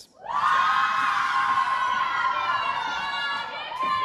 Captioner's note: cheers